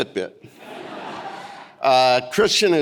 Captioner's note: audience laughing